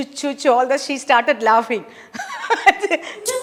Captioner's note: laughs